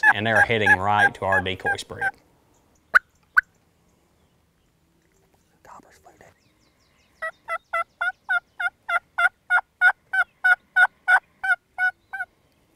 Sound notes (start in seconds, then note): 7.2 turkey calls